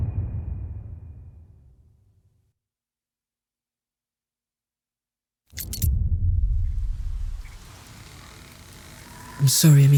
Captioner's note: dramatic sound